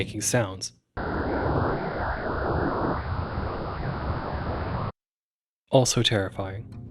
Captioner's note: spectogram makes creepy "yayayaya" noises